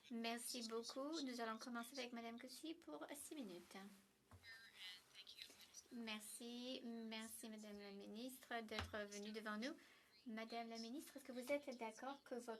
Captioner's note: speaking French